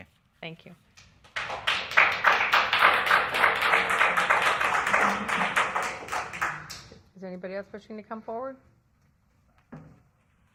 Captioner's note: applause